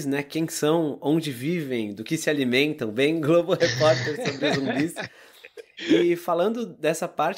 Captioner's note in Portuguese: risos